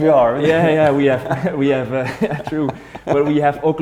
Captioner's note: laughs